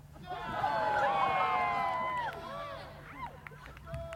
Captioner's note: cheers